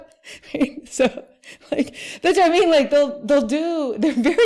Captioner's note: laughing